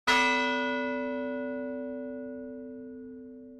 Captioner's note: bell tolls